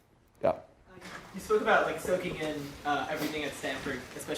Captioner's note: voiceover